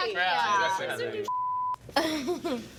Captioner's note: chattering